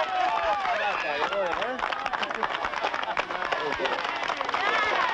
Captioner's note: audience applauding